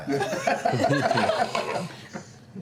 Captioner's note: laughter